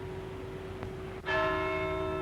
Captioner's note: clock strikes